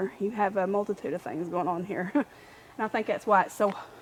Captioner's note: chuckles